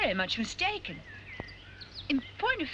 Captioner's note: none